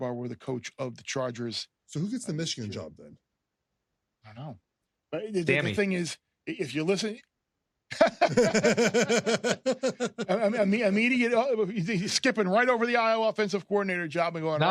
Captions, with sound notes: were the coach of the Chargers. So who gets the Michigan job then? I don't know. Sammy. The thing is, if you're listening-- [LAUGHTER] Immediate-- he's skipping right over the Iowa offensive coordinator job and going right for the--